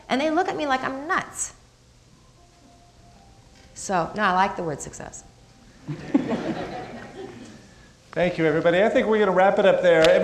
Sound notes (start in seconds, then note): 5.8 crowd laughing